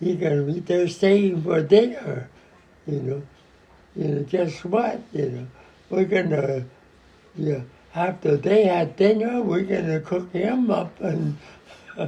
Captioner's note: <laughing>